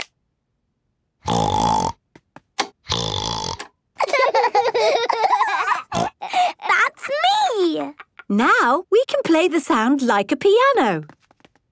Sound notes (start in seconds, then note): 1.5 snorting; 4.0 laughter; 4.3 snorting